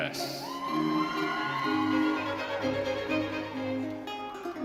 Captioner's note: audience cheering